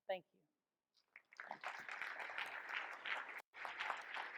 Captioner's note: audience applauds